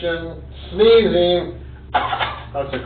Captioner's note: coughs